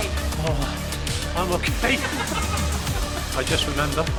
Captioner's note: laughing